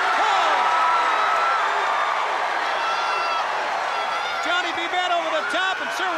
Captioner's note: crowd cheering